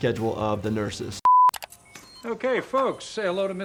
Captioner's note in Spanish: pitido de pantalla